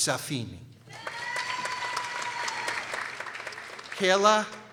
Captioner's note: people cheering